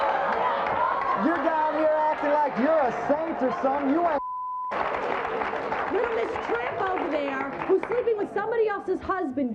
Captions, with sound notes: You're down here looking like you're a saint or something, you ain't (beep). (audience applauds) - Little Miss Tramp over there, who's sleeping with somebody else's husband,